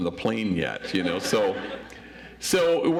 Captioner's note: audience laughs